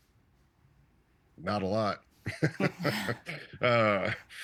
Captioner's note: chuckling